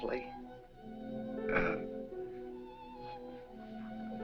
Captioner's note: clears throat